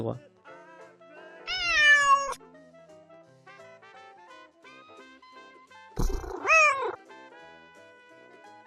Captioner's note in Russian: Звуки котейки